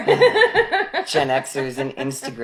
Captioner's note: laughing